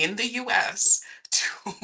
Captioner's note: chuckling